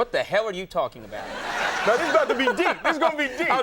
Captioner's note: audience laughing